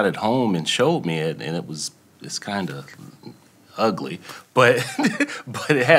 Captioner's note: laughs